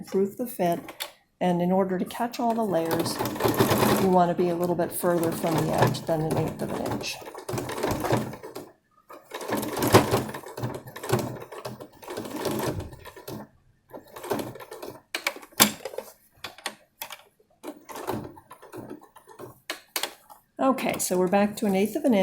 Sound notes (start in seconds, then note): 7.9 machine noises